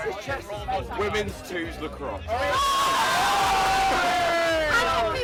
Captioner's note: cheering